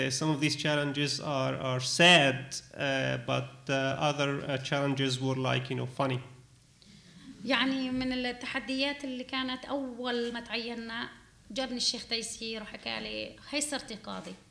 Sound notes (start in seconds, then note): 7.5 speaking arabic